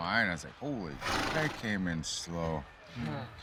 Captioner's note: horse snorts